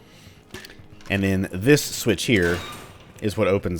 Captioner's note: gate door squeaks open; M16 reloads